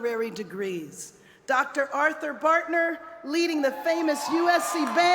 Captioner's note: cheers and applause